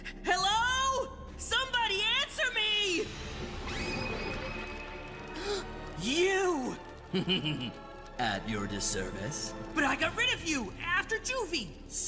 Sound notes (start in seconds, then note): 5.4 Mike Gasping; 7.1 Mal Laughing Evilly